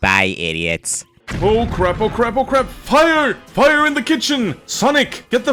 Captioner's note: explosion